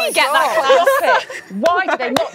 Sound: laughing

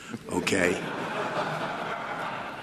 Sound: laughter

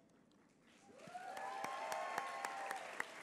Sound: applause

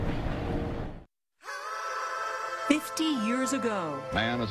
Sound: train rumbling

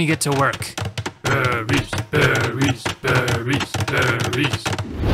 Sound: villagers chanting

